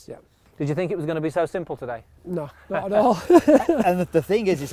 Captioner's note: laughs